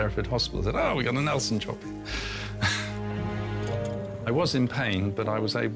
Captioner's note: chuckles